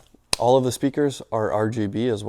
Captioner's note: palms clapping